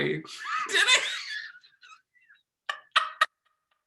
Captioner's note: laughing